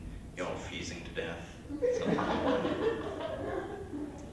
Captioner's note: laughter